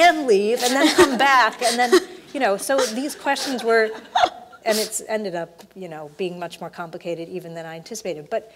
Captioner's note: laugh